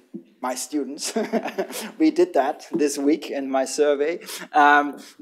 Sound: laughter

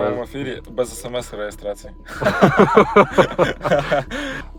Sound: laughter

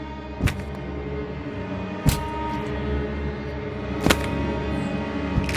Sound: bones crunching

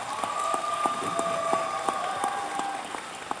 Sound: cheers

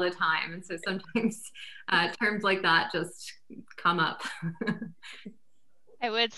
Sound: laughs

